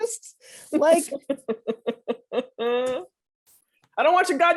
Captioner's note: laughing